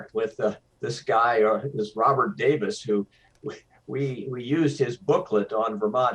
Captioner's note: none